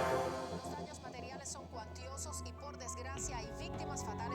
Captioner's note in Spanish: Voz en la televisión